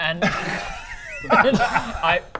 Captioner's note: reckless laughter